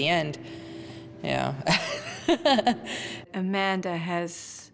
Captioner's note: laughing